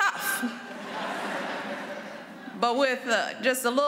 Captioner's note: laughter